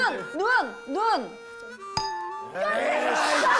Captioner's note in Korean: 땡 소리